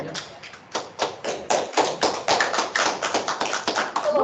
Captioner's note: clapping